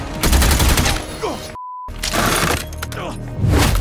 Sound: gun firing; beep

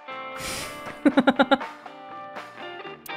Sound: chuckles

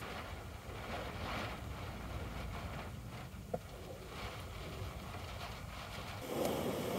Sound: you can hear the sound of a blizzard

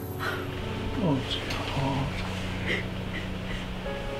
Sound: Barbara crying

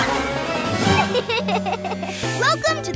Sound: laughing

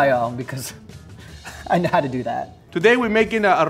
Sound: chuckling

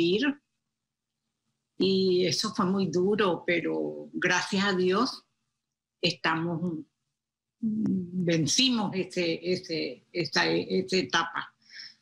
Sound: speaking foreign language

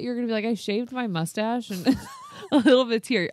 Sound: laughs

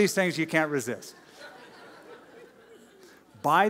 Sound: laughter

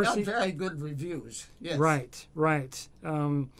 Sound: laughs

